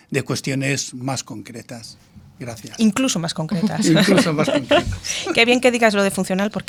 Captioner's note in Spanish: risas